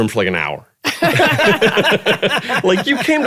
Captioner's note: everyone laughing